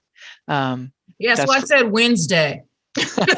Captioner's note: laughs